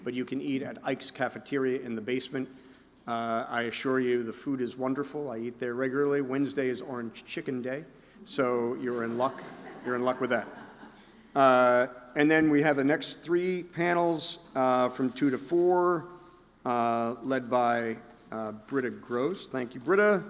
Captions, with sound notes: but you can eat at Ike's Cafeteria in the basement. I assure you, the food is wonderful. I eat there regularly. Wednesday is Orange Chicken Day, so you're in luck. You're in luck with that. [laughter] And then we have the next three panels from two to four, led by Britta Gross. Thank you, Britta.